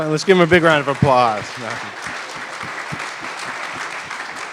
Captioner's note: applause